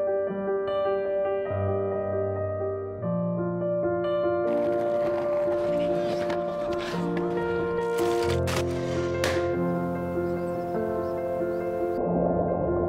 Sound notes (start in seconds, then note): 4.4 skateboarding sounds; 8.5 balloon Pop